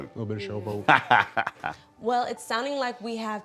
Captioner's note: laughs